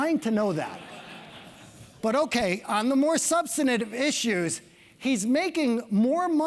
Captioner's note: laugh